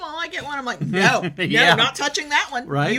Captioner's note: laughs